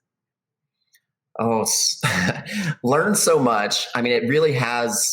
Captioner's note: chuckles